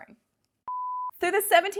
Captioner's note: beep